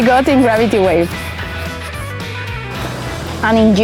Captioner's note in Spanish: lápiz dibujando